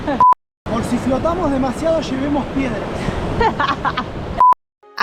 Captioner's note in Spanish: risas